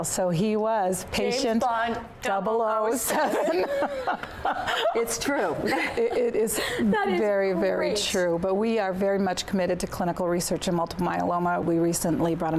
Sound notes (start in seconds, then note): 3.0 laughter